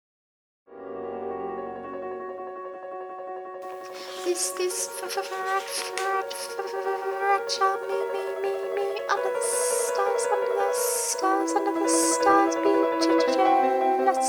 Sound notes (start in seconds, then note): 0.7 classical piano music; 4.3 narrator stuttering